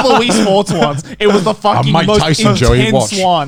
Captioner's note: chuckling